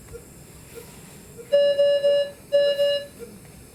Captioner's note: medical machine beeping